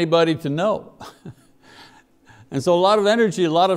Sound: chuckles

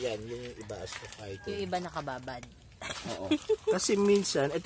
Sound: giggles

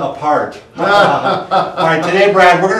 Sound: laughs

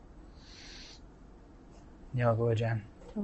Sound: non-english speech

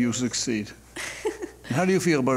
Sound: defendant laughs

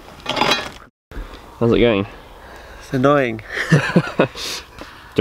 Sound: laughs

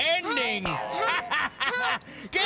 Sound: laughs

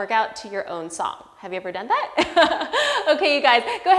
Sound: laughs

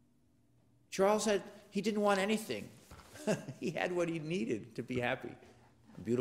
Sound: laugh

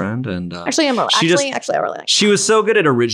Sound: voice muffled

